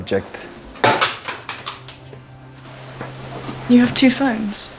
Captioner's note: phone landing on floor